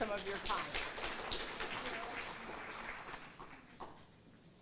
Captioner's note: audience applauds